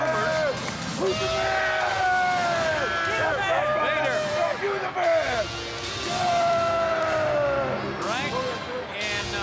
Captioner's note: crowd chatter